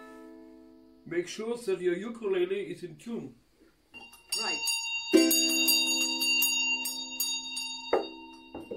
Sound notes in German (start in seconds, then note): 5.5 christmas bell